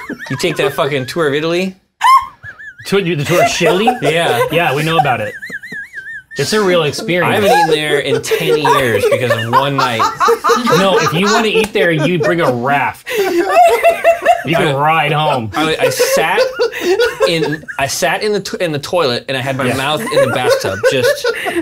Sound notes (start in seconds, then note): 13.0 unhinged laughter